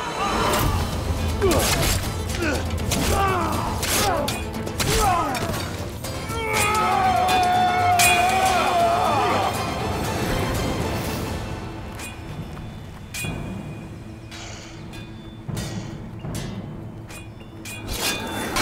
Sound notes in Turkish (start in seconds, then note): 0.1 Dövüşme sesleri; 15.4 Kılıç sesleri; 17.5 Dövüşme sesleri